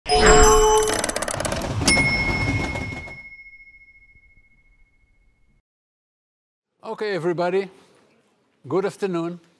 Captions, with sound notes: (bright music) (bell pinging) - Okay everybody, good afternoon.